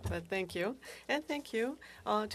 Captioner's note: speaking French